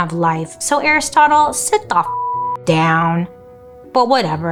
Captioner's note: beep